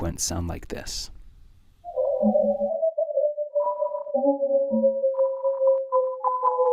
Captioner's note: seismic signals